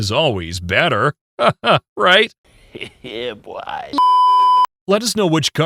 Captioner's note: sarcastic laugh